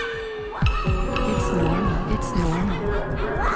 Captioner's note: children barking like dogs